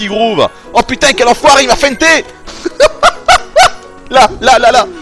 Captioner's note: laughs